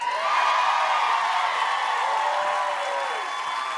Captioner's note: cheers and applause